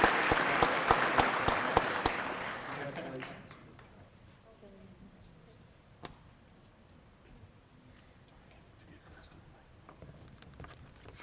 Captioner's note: cheering and applause